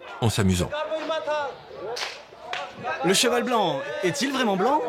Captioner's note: dzongkha spoken audio